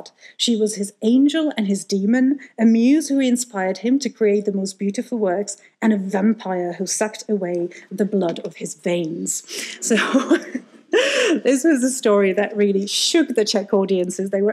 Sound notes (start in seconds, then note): 9.8 laughs